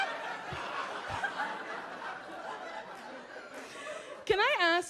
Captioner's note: laughs; audience laughs